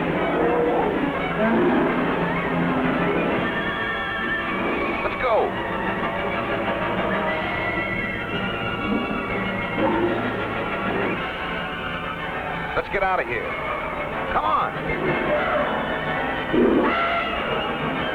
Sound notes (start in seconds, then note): 1.1 mammoth roaring; 3.8 suspenseful music; 5.8 suspenseful music; 14.9 suspenseful music